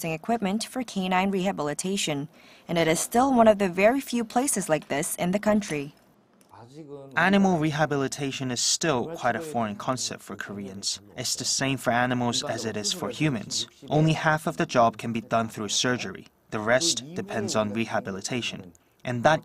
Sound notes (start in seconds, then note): 6.1 Korean